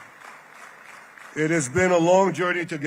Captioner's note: applause